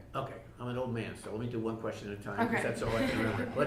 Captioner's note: laughing